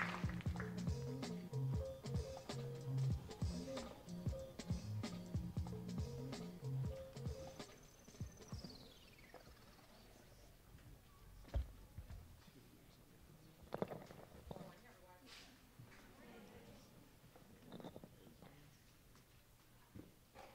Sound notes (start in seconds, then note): 0.0 light playful music; 14.7 audience members chattering